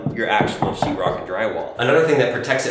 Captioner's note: knocking